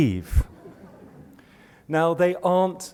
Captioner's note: laughter